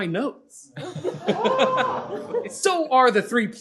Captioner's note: laughter